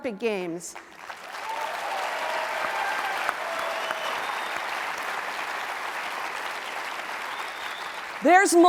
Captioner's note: applause